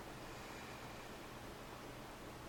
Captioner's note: breathing sounds